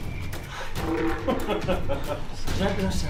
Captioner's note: laughing